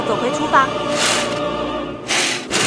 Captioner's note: closing the curtain hardly